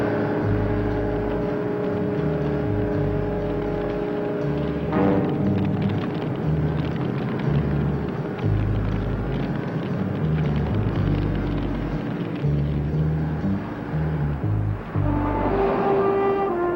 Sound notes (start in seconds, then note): 0.1 suspenseful music; 5.0 fire crackling; 13.7 suspenseful music